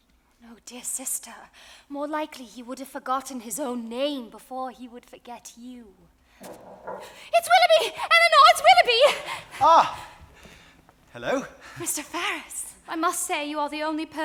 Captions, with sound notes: - Dear sister, more likely he would have forgotten his own name before he would forget you. (knocking on door) - It's Willoughby! Elinor, it's Willoughby! - Ah, hello. - Mr. Ferrars. - I must say, you are the only person